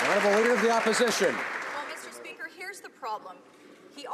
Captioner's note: some Applause